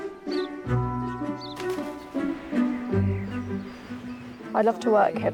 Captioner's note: birds chirping